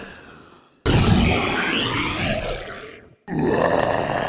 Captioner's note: dumb roaring; mindless roaring; pissed roaring